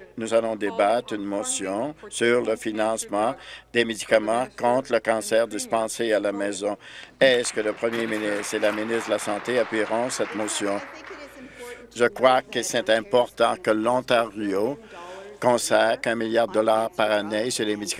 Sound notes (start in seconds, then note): 9.4 applause